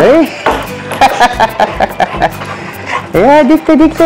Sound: laughs

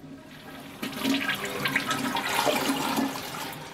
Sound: toilet flushes

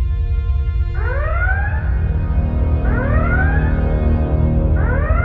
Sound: alarm blaring

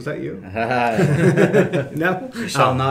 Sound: laughing

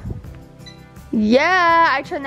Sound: beeping

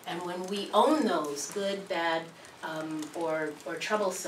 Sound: none

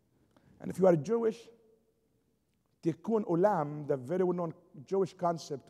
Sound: foreign language spoken

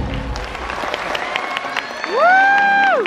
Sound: crowd cheers and claps

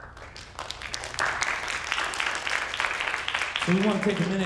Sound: audience applauding

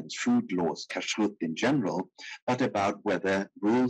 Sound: speaking in foreign language

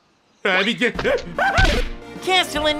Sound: CASTELLANETA screams like Homer Simpson

